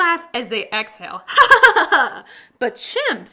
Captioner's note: laughing